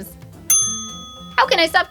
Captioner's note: ding